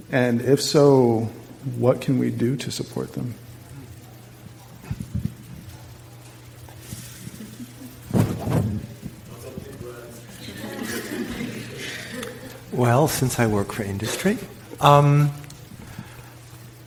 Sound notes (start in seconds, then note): 10.3 audience laughs